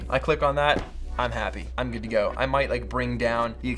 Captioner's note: foot stomp